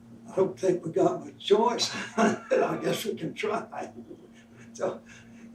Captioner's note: laughs